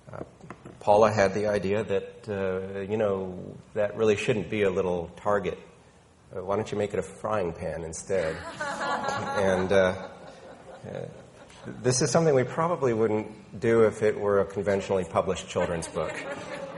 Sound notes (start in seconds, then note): 8.2 woman laughing